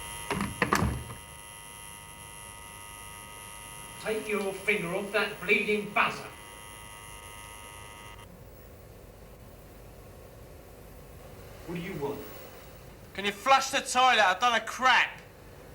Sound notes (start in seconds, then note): 1.2 flap opens; 9.0 buzzing stops